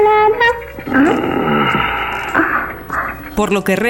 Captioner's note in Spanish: Ronquidos